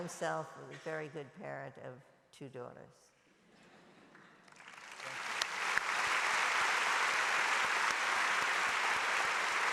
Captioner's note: applause